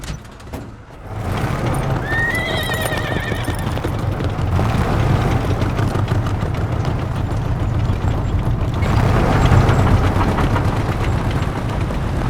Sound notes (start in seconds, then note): 1.0 horse whinnying